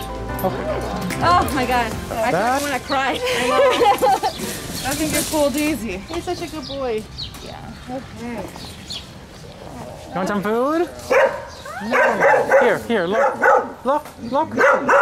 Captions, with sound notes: Okay. Oh my God, I think I'm going to cry. [Laughter] That thing gets pulled easy. He's such a good boy. Yeah, okay. Aww. You want some food? [Barks] [Barks] Here, here, look, look, look.